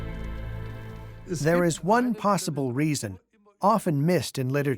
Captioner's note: in German